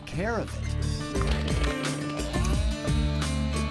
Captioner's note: upbeat music; chainsaw whirs